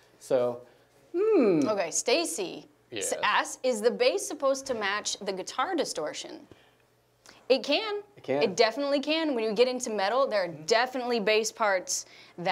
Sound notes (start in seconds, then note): none